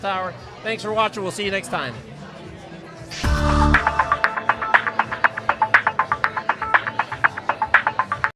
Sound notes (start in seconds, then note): 2.7 people chatting; 3.1 intense techno music